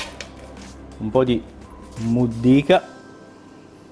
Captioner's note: bread crumble